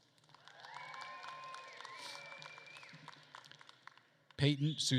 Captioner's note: attendees cheering and applauding